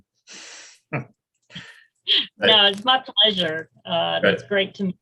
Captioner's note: chuckles